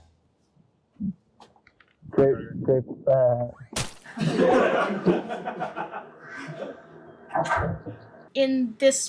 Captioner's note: unenthusiastically; splat sound; audience laughter